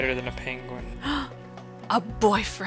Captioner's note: gasp